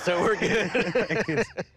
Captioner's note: laughter